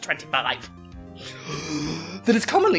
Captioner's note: gasp